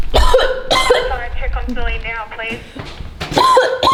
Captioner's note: walkie-talkie